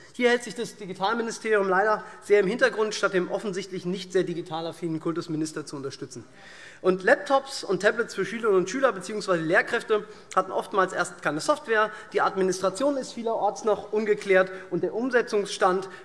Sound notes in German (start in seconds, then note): none